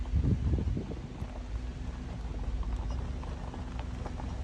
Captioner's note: wind gusting